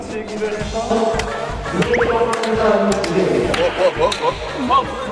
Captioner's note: laughs